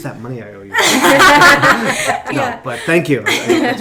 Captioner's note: laughing